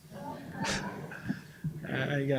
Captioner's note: laughter